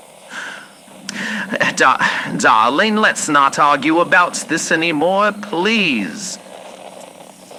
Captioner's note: Alastor regular voice; more digging fx